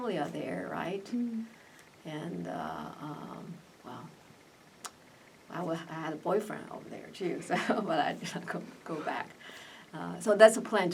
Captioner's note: laughs